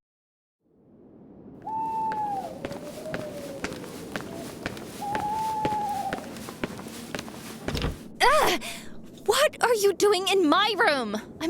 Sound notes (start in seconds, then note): 1.6 owl hooting; 6.1 footsteps; 7.6 wooden door opening